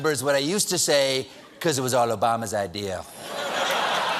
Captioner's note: applause; laughter